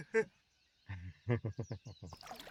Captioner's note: laughs; everyone laughs